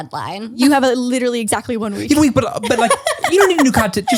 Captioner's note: laughs